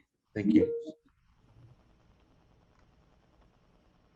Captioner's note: computer beeps